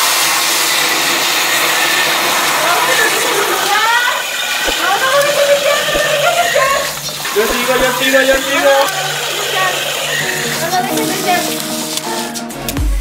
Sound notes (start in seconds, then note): 4.6 aluminum sound